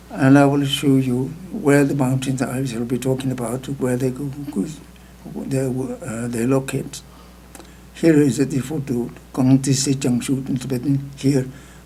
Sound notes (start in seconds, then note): 9.1 speaking tibetan